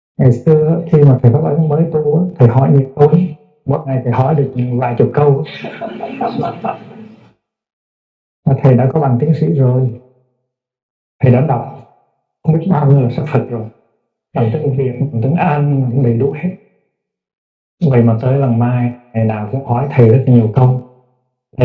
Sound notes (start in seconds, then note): 5.4 audience laughing